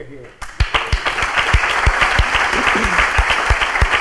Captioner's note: crowd applauding